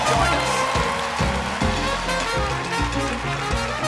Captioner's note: applause